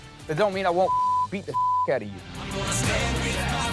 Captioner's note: beep